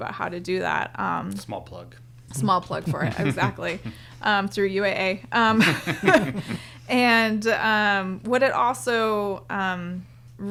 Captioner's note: both laugh